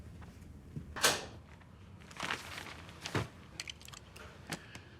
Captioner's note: door clacks